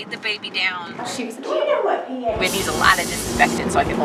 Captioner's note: background chatter